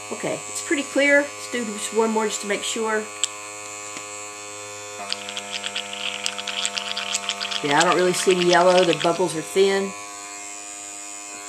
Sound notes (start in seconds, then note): 5.0 water bubbling